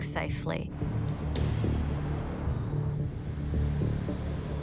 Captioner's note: car engines revving; dramatic music